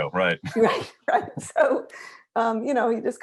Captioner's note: laughs